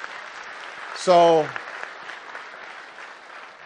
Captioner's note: applause